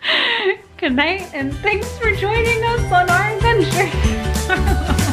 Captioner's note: laughs